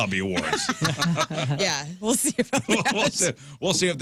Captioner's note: laughing